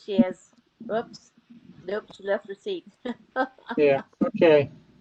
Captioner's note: laughter